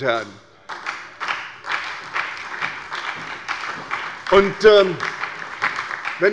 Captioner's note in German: Beifall bei der SPD